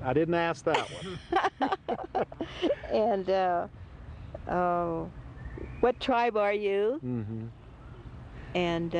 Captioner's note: laughter